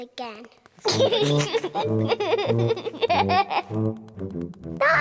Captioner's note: giggling